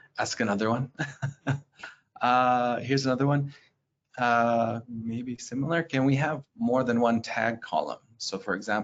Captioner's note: laughs